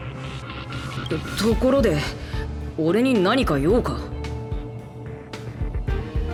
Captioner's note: sigh